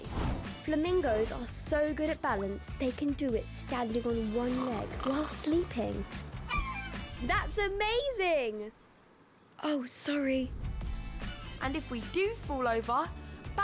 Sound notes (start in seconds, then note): 6.0 snoring; 9.3 whispering